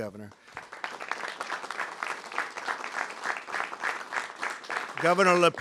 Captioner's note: applause